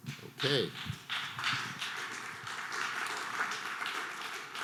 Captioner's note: scattered applause